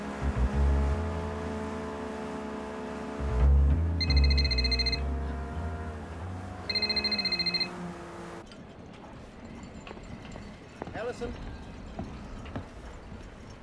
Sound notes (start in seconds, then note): 0.3 boat motor rumbling; 4.2 ringing